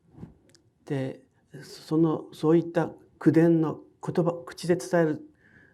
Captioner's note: speaking in foreign language